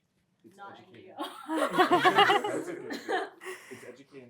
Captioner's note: laughter